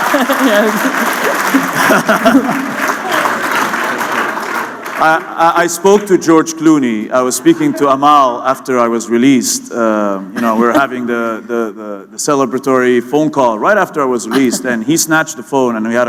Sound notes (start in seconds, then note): 1.6 laughter